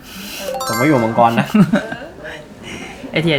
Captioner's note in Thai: เสียงสูดหายใจ